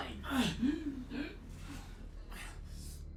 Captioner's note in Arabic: تأوه